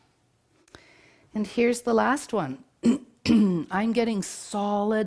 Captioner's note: clears throat